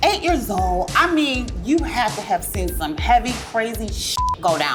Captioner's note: beep